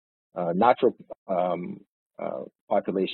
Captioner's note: audio distorts